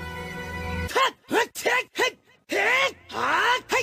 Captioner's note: speaking in foreign language